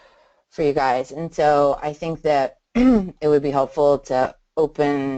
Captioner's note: clears throat